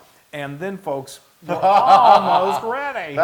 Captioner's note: laugh